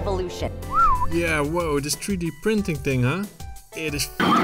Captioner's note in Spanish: silbido